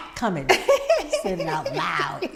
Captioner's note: laughing